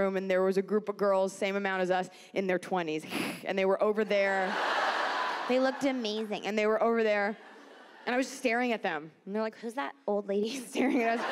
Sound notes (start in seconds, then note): 3.1 Iliza hisses; 4.2 audience laughs